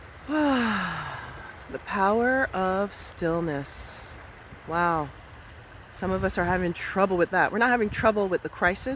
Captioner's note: sighs